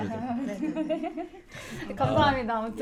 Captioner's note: laughing